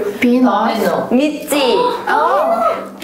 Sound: gasping

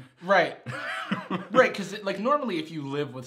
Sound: laughing

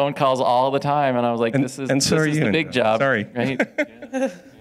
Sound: audience laughs

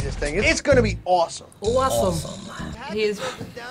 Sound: both mimicking accent

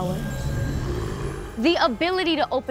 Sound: zombies growl

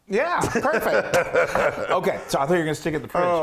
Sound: laugh

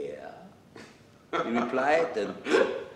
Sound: laughter

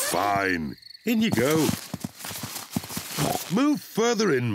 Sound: oinks

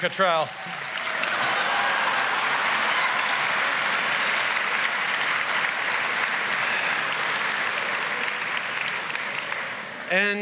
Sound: applause & laughter

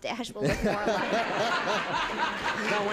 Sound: laughter

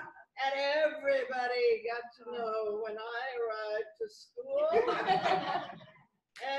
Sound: laughter

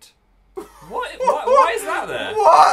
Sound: laughing

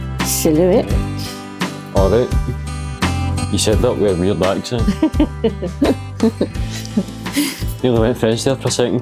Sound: laughter

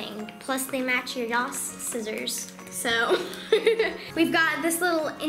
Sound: laughs

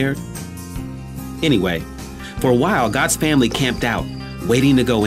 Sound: crickets

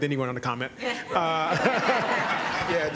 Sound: laughter

